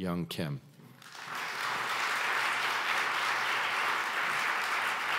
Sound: audience applauds

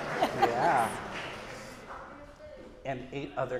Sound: audience cheering

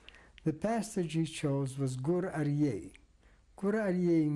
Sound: non-english

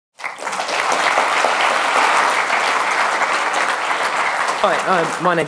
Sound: applause

